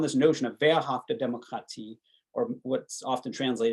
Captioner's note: speaking german